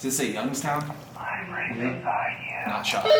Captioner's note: on walkie-talkie; whispering